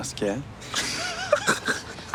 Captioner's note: laughing